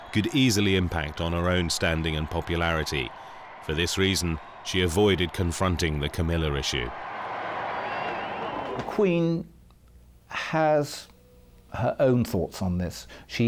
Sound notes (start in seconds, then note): 6.8 crowd whistling; 7.2 crowd cheering